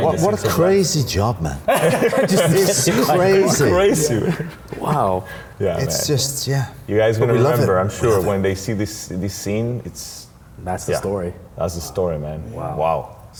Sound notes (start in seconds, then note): 1.6 group laughing